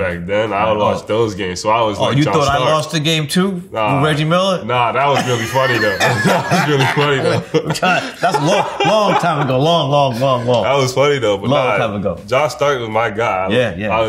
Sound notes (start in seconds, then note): 5.1 RJ and Spike laugh